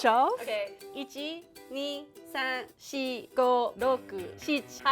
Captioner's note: counts to 10 in Japanese